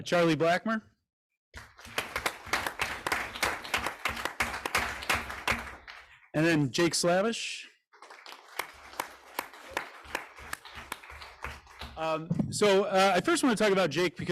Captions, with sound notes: Charlie Blackmer, (group applauds) and then Jake Slavish. (group applauds) So I first wanna talk about Jake,